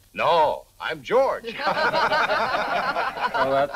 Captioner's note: group laughing